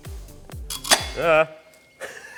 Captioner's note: tin snipper sound